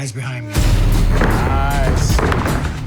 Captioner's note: dramatic music; body thuds to canvas